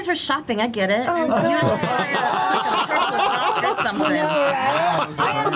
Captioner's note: laughter